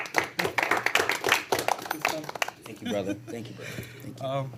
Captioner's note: applause